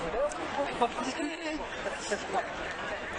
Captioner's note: woman laughs